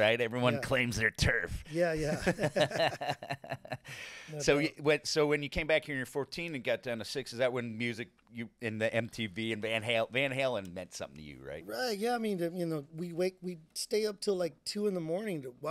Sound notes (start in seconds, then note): 2.0 both laughing